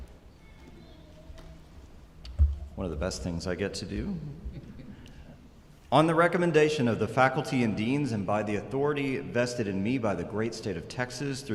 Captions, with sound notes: - One of the best things I get to do. (people chuckling) On the recommendation of the faculty and deans and by the authority vested in me by the great state of Texas